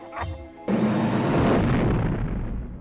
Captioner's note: laughs; rumbling